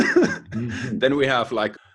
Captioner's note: laughs